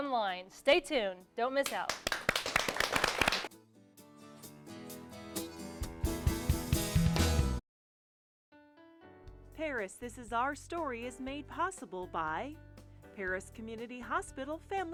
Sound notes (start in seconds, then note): 1.6 applause